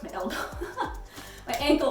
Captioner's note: laughs